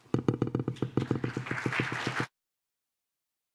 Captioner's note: applause